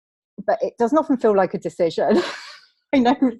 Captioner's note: laughs